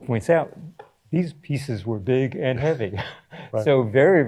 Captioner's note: chuckles